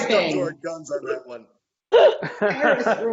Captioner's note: laughing